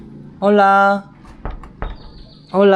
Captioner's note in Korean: 묵직 똑